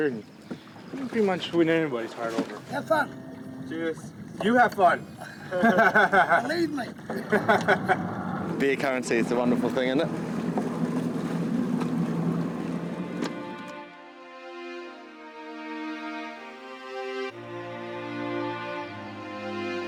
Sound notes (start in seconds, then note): 5.0 laughing